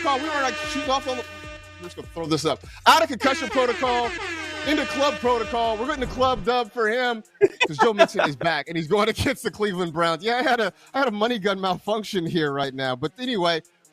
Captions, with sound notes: TO TRY TO KEEP UP. I CONCUSSION PROTOCOL IN THE CLUB PROTOCOL. WE ARE IN THE CLUB FOR HIM. [LAUGHS] [LAUGHS] ITEM MONEY GUN MALFUNCTION HERE RIGHT NOW. BUT ANYWAY THAT'S ON MALFUNCTIONS COULD BE JOE